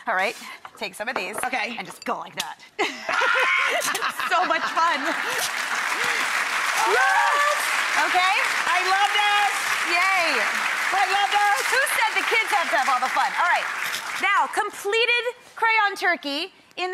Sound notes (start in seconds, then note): 2.8 laughs; 5.3 audience applauds